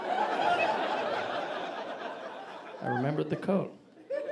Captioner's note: audience laughing